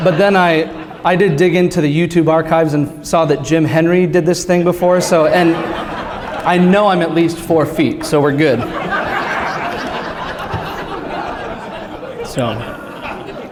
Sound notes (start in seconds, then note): 9.6 laughter